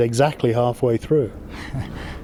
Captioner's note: chuckles